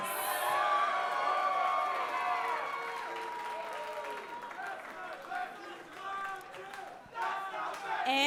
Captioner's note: cheers & applause